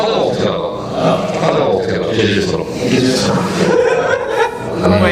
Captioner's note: laughs